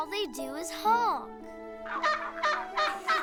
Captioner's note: goose honking; laughing